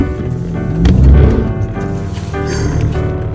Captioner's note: the sound of wheels spinning again